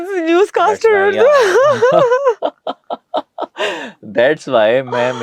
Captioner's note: laughter